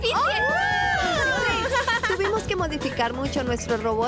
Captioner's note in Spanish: todas gritando